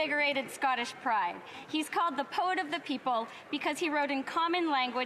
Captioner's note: none